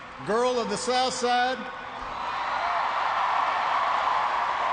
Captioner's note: cheering